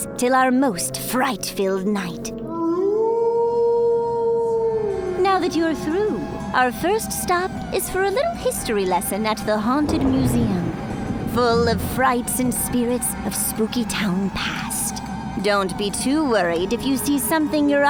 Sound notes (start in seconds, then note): 2.5 wolf howls